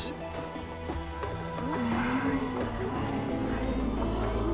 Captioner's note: indistinct chatter